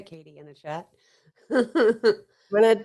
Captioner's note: laughs